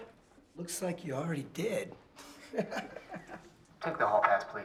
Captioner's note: laughs